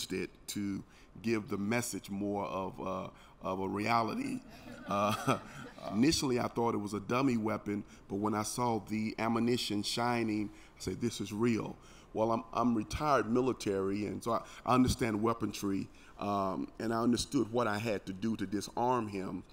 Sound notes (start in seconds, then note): 4.5 chuckles